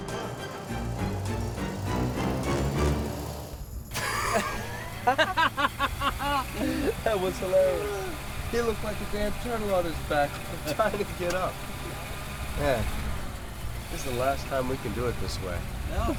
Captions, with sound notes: (laughing) - That was hilarious. He looked like a damn turtle on his back trying to get up. Man, this the last time we can do it this way.